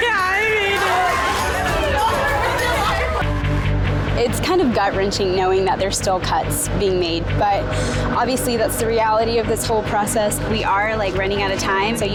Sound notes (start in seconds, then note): 0.0 women cheering; 1.4 upbeat music; 4.3 dramatic music